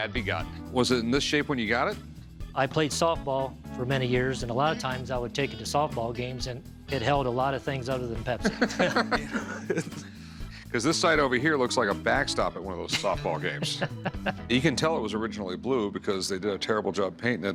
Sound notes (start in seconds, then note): 8.4 laughter; 13.0 laughs